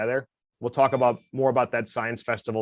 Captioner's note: phone chimes